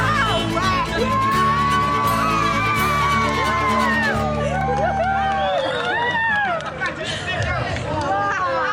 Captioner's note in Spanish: Aplausos